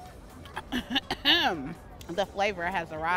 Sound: clears throat

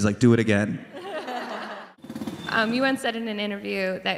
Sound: crowd laughs

